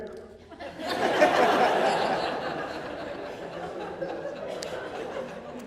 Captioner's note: laughter